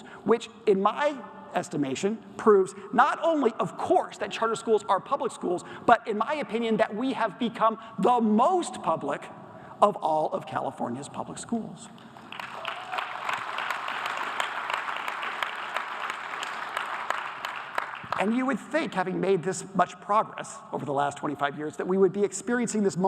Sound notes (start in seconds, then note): 12.2 audience applause